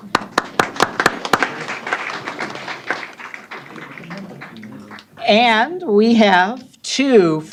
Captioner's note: applause